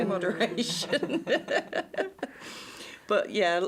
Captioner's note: laughter